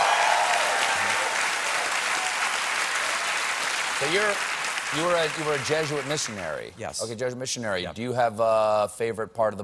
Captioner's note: applause